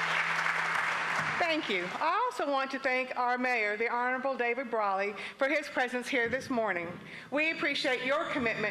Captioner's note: applause